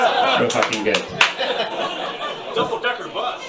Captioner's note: audience laughs